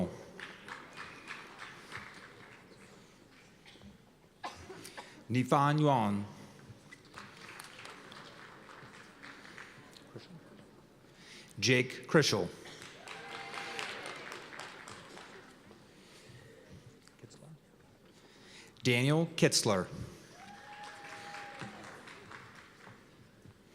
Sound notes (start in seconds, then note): 0.0 applause; 7.0 applause; 12.8 cheers and applause; 20.3 cheers and applause